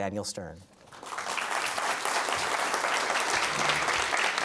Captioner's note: applause